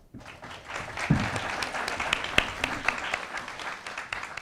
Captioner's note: attendees applauding